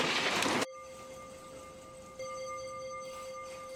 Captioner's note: bell ringing